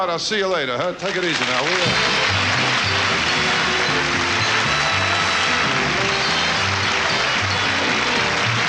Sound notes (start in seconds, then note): 1.0 audience applauds; 1.6 upbeat instrumental music